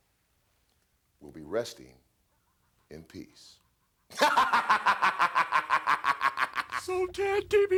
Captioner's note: laugh